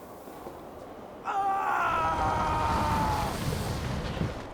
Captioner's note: scream